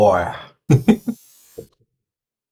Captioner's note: laughs at own stupidity